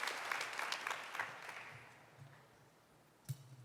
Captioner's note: applause